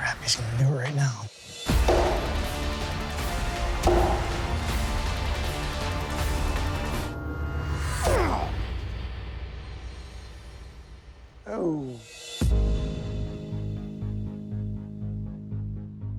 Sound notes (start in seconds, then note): 1.6 rock music playing; 7.4 shouting